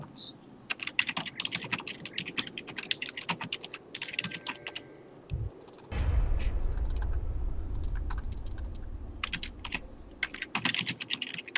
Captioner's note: typing sounds